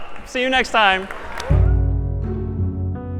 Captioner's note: تشویق، تشویق